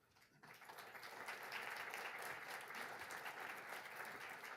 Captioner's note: audience applauds